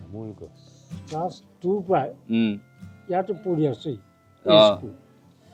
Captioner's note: speaking Assamese